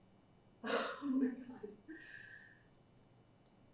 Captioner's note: laughing